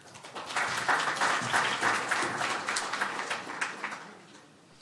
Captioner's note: applause